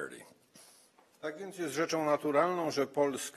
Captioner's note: speaking polish